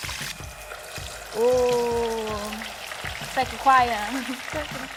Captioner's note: laughs